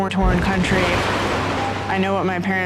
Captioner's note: explosion